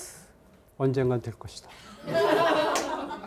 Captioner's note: speaking in Korean; students laughing